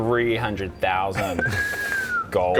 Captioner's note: low whistle